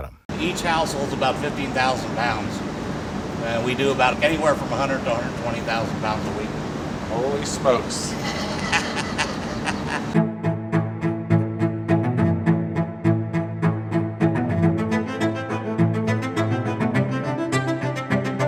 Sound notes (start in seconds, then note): 8.1 laughter